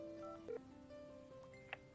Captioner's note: beeping